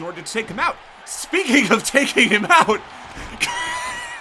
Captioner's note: laughs